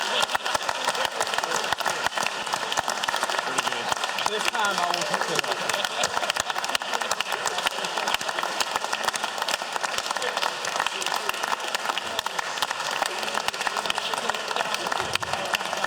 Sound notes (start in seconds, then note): 0.5 laughter; 3.0 applause